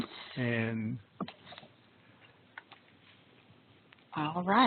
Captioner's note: silence